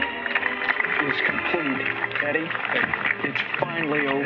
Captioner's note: applause